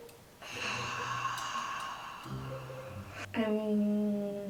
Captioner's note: sigh